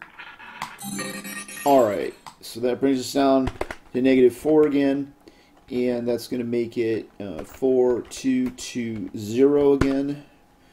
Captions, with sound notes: (ball rolling) (successful chime) All right, so that brings us down to negative four again. And that's gonna make it four, two, two, zero again.